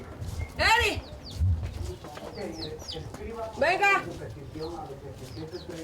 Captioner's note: neighbor shouting in foreign language